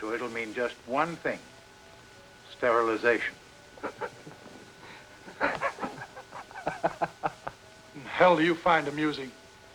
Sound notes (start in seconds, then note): 3.7 Kurt laughs